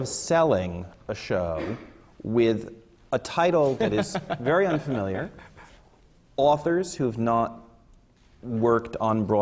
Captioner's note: laughs